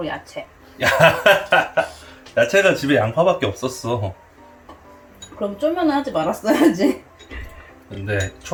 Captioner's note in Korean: 멋쩍은 웃음